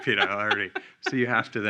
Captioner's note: laughing